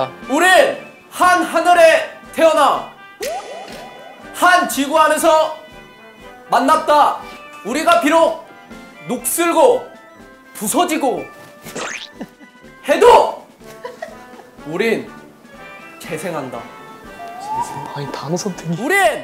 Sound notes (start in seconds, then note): 11.8 chuckling